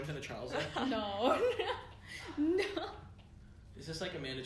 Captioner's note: laughs